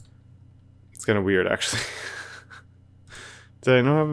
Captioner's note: laughs